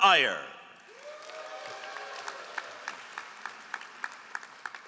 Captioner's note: all applauding